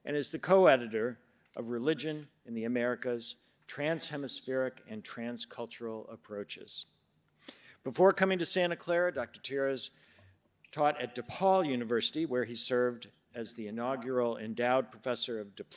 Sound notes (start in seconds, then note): none